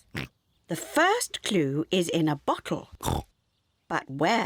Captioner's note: oinks; oinks